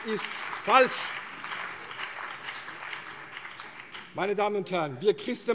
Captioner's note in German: Beifall CDU und BÜNDNIS 90/DIE GRÜNEN